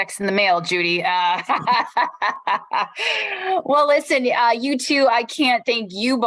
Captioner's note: laughter